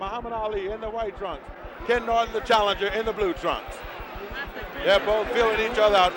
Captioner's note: bell sounds